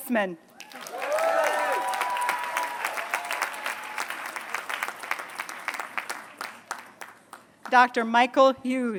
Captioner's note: applause